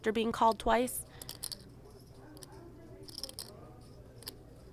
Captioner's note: crowd chatting